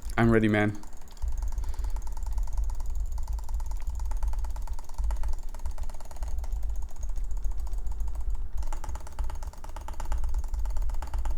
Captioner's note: clicking continues